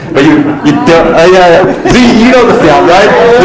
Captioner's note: laughter